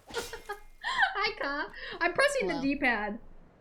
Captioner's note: laughter